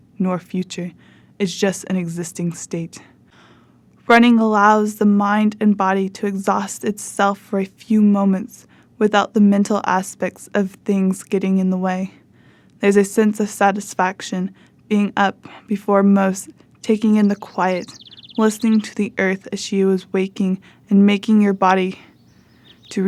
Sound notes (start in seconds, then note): 16.8 birds chirping